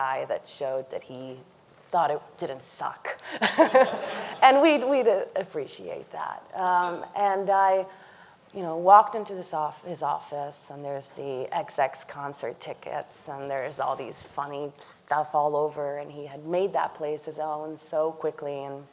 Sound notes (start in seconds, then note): 3.2 laughs; 3.3 audience laughing